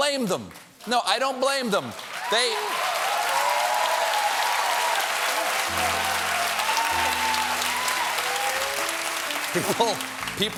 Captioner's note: cheers and applause